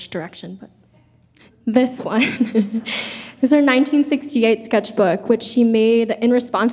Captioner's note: chuckles